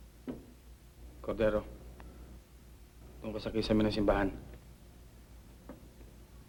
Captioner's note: speaking filipino